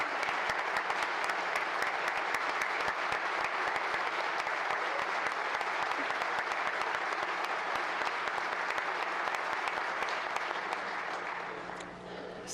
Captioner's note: applause